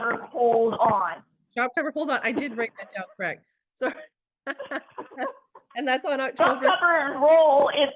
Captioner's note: laughing